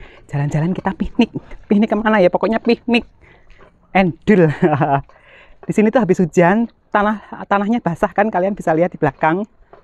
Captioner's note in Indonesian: ketawa